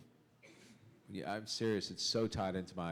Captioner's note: chuckle